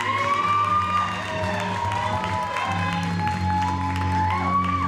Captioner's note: audience cheers and applauds